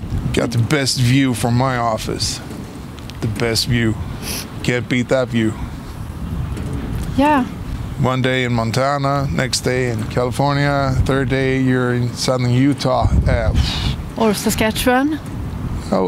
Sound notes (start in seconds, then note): 13.5 exhaling